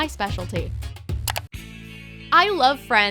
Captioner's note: clicking